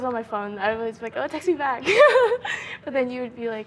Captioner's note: laughing